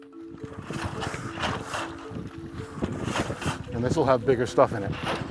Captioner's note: water sloshing